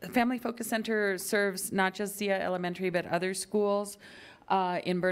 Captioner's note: none